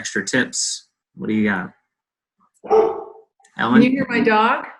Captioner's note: barking